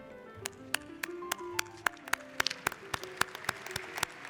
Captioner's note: applauding